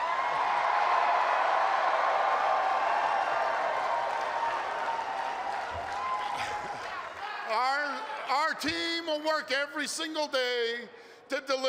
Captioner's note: cheers and applause